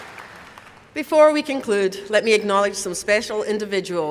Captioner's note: applause